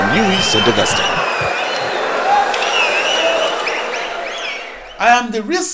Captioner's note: wild applause and cheering for 22 seconds